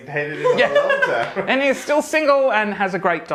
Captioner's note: woman laughs